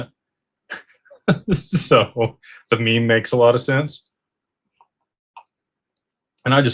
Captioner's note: laughter